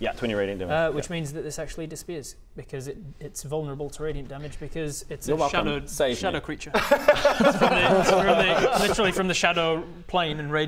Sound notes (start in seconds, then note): 6.7 fair-enough laughter